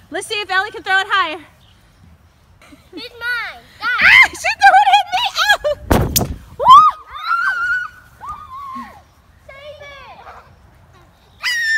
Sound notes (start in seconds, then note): 5.8 balloon thuds; 6.6 screaming; 11.5 shrieking